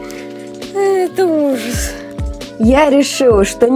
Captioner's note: sigh